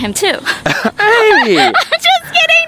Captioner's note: laughing